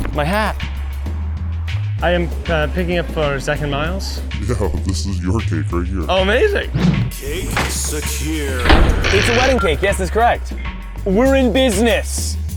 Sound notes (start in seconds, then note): 7.2 voiceover; 8.5 vault slams closed; 9.3 panel beeps; 12.4 voiceover